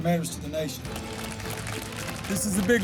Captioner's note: audience applauding